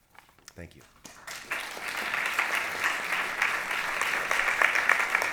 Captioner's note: applause